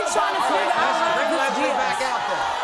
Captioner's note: crowd shouting